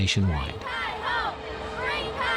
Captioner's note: crowd